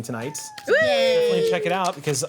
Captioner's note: group cheers